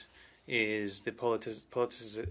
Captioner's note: speaking French